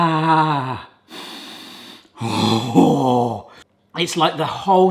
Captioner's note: breathes deeply